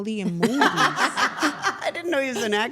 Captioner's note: everyone laughing